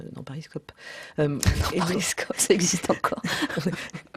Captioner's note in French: rires